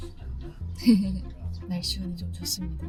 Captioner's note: laughing